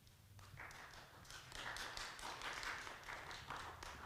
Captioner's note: audience clapping